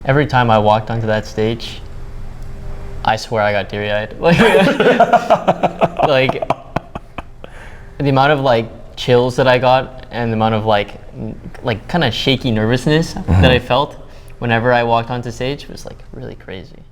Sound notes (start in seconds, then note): 4.3 laughs